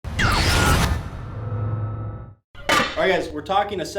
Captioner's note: distressed signal